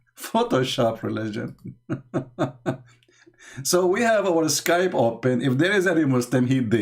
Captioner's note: Ketawa